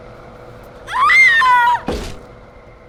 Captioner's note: screaming; thud